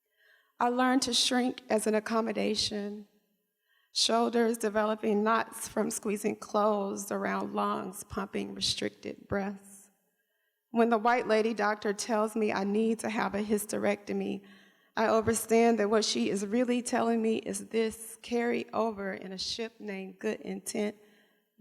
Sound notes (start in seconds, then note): none